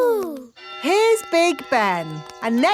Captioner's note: clock chimes